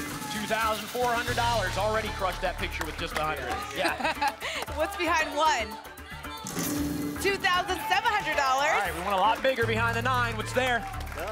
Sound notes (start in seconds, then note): 3.7 laughs